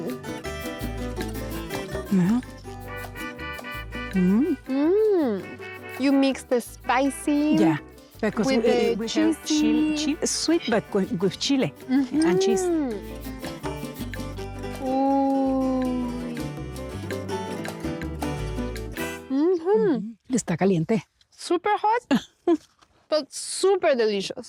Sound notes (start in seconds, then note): 19.8 speaking Spanish